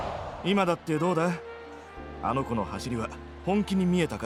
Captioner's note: none